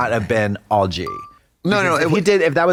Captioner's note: pause bell